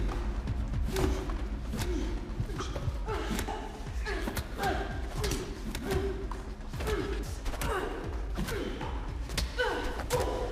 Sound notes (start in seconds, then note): 4.1 blows thudding; 4.1 tense music continues